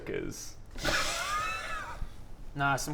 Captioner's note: awkward giggles